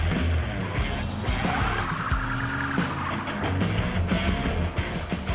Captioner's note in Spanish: Ruido del vehículo